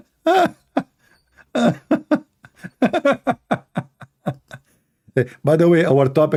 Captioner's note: Ketawa